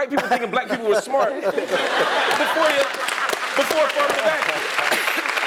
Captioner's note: laugh; applause